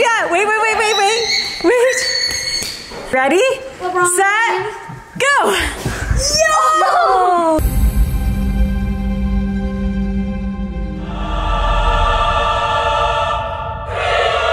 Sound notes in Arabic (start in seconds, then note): 5.6 الكل يهتف; 7.6 موسيقى درامية; 11.7 موسيقى ملائكية